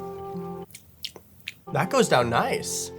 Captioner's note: lips smacking